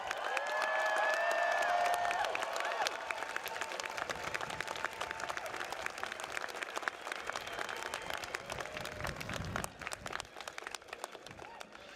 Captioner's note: applause